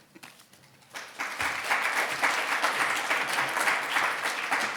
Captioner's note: audience applauding